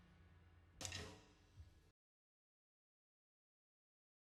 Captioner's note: drumsticks clattering